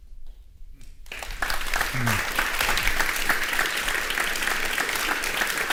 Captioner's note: audience applauding